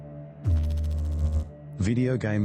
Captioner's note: electrical noise